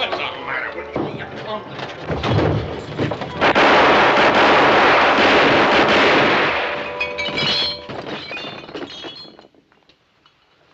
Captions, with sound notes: - Hey, what's the matter with you?! Ya clumsy- (Gunshots) (bottles clinking)